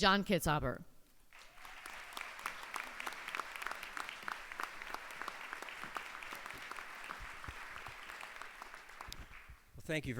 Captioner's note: applause